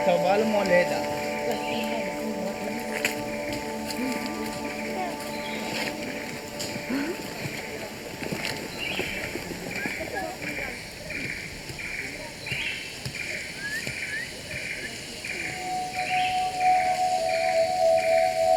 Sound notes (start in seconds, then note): 0.5 man speaking in foreign language